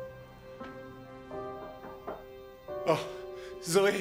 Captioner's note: knocking